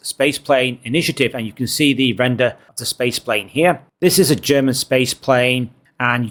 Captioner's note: French